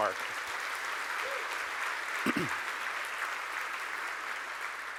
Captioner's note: audience applauding